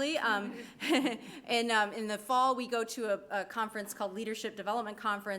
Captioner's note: laughs